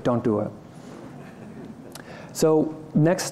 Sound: laughter

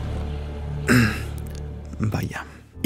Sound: ahem

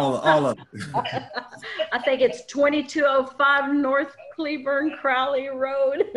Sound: laughs

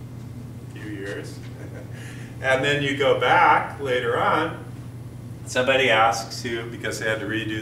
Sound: chuckle

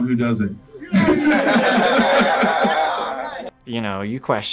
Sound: crowd laughs

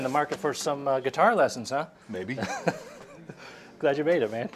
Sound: laughs

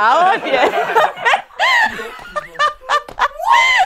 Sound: people laughing

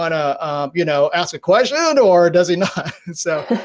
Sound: laughs

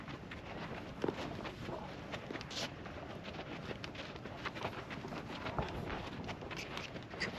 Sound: footsteps; footsteps

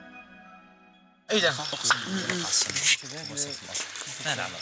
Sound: arab spoken audio

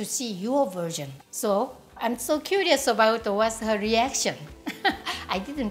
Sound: laughs

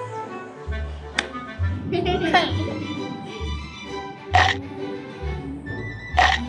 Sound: laughing

